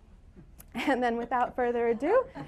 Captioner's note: laughter